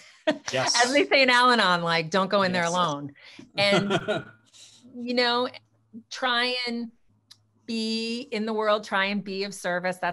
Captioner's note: laughs; laughs